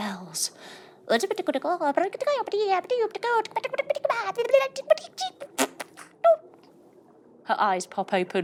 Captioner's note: muttering in witchy language